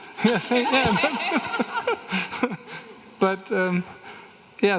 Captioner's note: everyone laughing